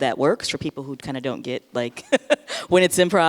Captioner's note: laughs